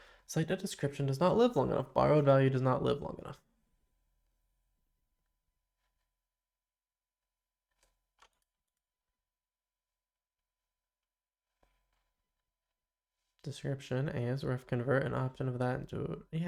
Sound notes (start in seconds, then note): 3.5 silence